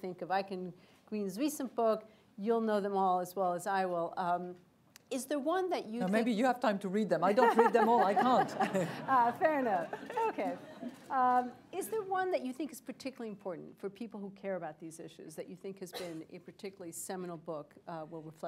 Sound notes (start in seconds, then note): 7.3 laughter